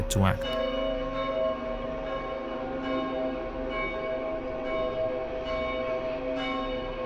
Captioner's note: bell tolling; eerie music